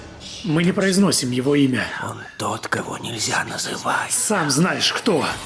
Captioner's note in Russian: шепотом